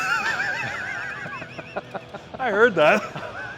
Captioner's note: Ethan laughing